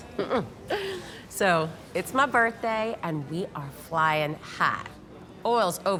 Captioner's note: chuckles